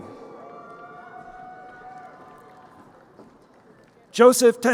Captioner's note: crowd cheering